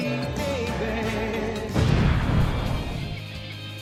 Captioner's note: explosion